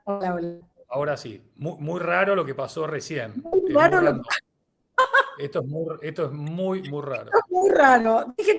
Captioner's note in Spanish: risas